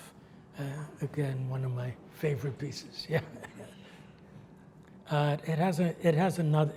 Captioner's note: laughs